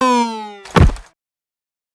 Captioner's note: thud